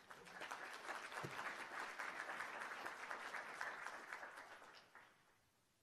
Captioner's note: applause